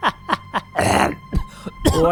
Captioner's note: groans